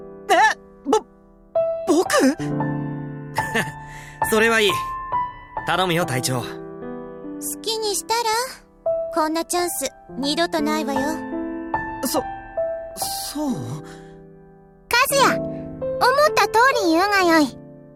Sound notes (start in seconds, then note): 4.0 laugh